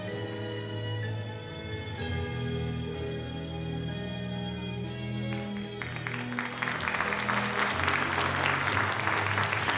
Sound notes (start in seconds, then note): 5.3 audience applauding